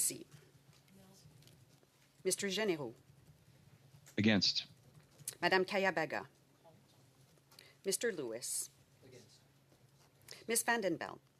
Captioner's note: speaking French